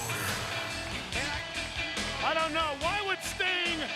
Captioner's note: crowd chatter